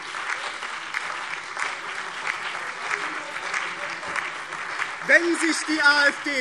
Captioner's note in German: Beifall BÜNDNIS 90/DIE GRÜNEN, CDU, SPD und DIE LINKE - Zurufe AfD